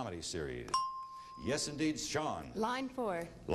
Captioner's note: ding